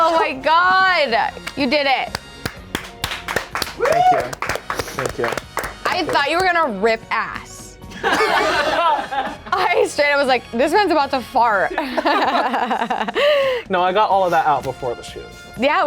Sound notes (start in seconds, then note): 2.1 everyone applauds; 8.0 everyone laughs